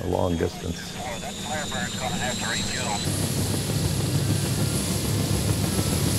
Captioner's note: man On Radio